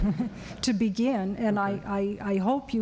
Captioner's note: laughter